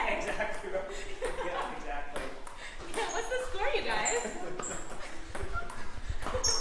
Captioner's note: ping pong bouncing